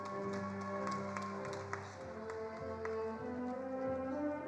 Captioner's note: attendees applauding